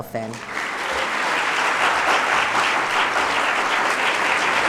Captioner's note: audience applauds loudly